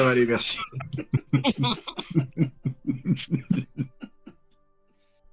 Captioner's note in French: rires